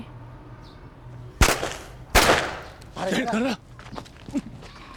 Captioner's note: blasting